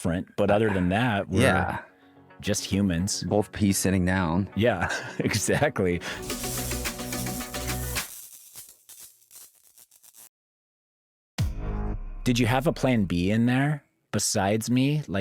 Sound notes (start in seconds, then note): 8.1 electricity crackling